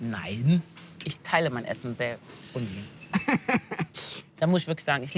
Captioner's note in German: Er kichert